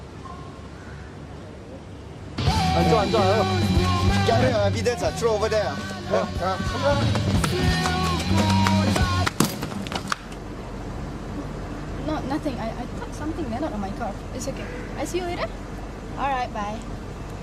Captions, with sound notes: [punk rock music] Take these and throw them over there! [loud thud] No nothing, I thought something landed on my car. It's okay, I see you later? All right, bye.